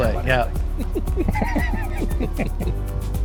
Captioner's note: laughs